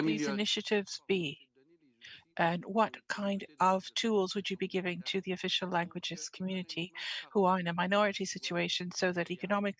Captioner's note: speaking French